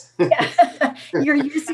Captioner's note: laughter